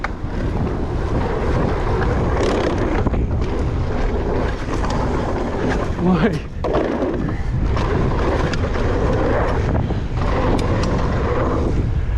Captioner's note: bike engine roaring